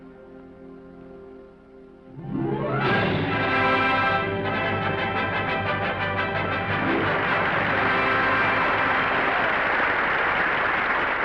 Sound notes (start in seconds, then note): 1.7 triumphant music; 7.2 audience applauding